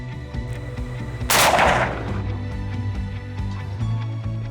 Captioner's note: gunshot